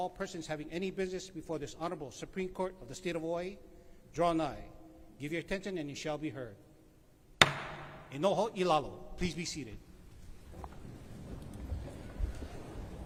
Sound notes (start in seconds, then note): 7.4 gavel bangs once